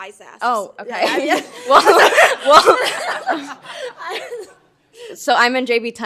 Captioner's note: all laughs